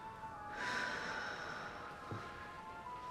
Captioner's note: sighs